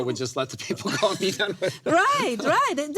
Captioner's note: both laughing